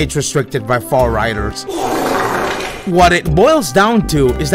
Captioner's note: TikTok fart sound effect